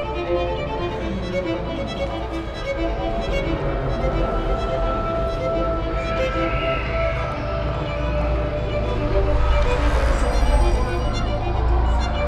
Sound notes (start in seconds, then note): 9.2 bell rings; 9.2 bicycle passes